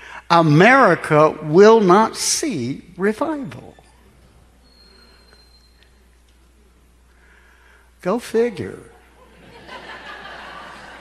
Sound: congregation laughing

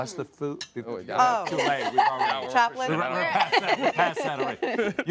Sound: laughter

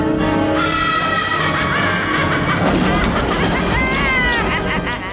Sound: Winifred cackling

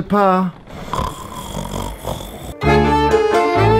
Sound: snores

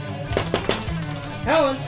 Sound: knocks

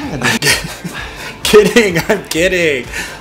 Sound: laughing

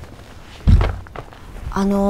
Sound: door closes

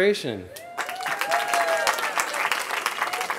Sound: cheering

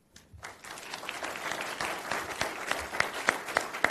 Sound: clapping

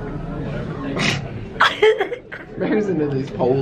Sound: both laughing

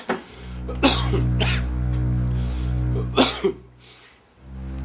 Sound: Dr. Richards coughs

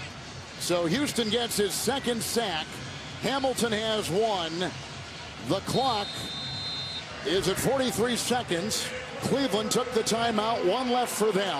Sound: whistle blowing

